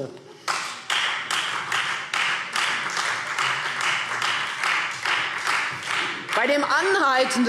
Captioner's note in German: Beifall Freie Demokraten